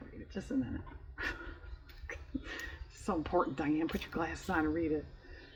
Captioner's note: laughs